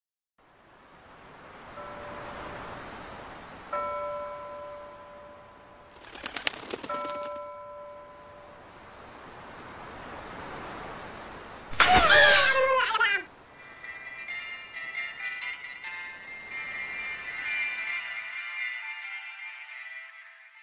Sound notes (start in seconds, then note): 0.6 waves crashing; 3.8 buoy bell ringing; 5.9 wings flapping; 11.7 angry gibberish; 11.8 seagull squawking